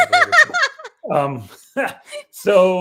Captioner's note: laughing